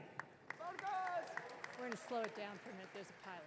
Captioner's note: audience cheering